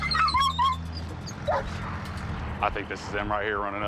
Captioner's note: dog whining